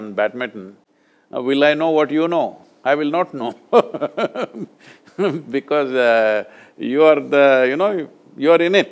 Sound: laughs

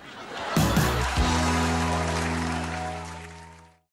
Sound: applause

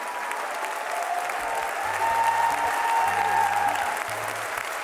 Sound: audience applauding

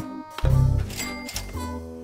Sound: ding

